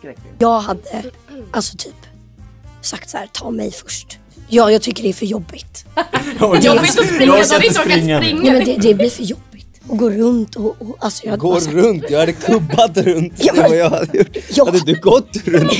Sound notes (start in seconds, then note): 6.0 laugh